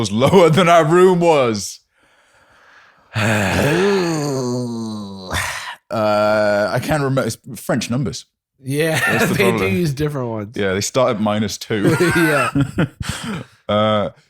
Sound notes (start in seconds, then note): 3.1 sighs; 3.1 groans; 11.8 laughs